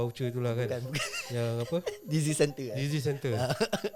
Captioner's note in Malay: ketawa